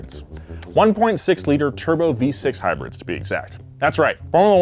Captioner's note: none